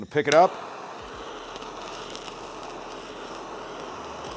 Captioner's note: blow torch flaring